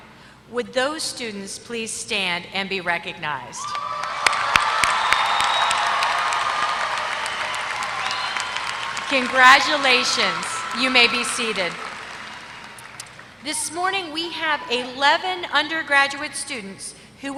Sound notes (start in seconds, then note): 3.6 applause